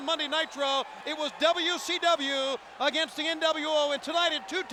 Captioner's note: crowd cheering